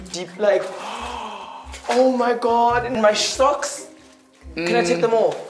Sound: gasps

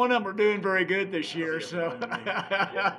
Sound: laughing; laughing

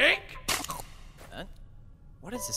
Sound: snap / munch

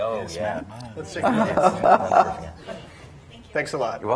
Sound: chuckles

